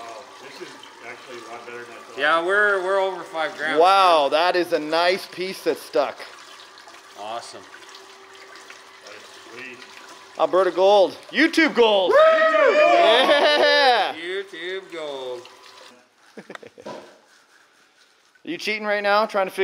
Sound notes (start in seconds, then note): 12.0 shouts; 16.2 chuckles